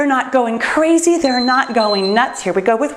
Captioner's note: timer beeps